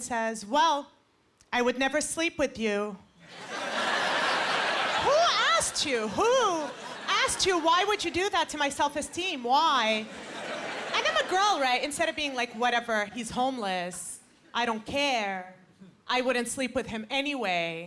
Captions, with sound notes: "Well, I would never sleep with you." (Laughter) Who asked you? Who asked you? Why would you do that to my self-esteem, why? And I'm a girl, right? Instead of being like, "Whatever, he's homeless, "I don't care. I wouldn't sleep with him anyway,"